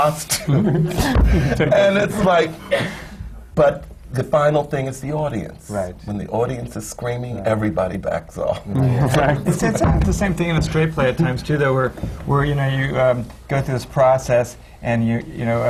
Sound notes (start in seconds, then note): 0.4 he gestures, laughs; 0.4 laughter; 8.8 laughter